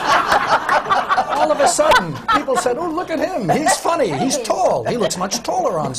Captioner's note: laughter